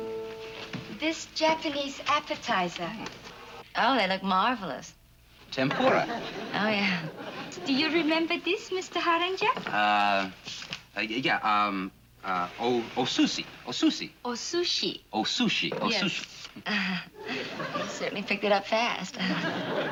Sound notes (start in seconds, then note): 12.1 speaking Japanese; 19.1 chuckles